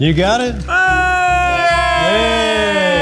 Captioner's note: group laughs; screams